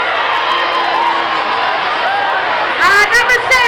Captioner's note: crowd cheering